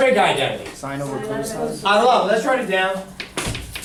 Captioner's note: voiceover